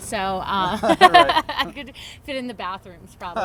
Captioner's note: laughs